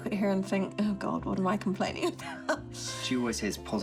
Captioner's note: laughs